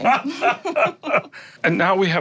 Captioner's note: laughter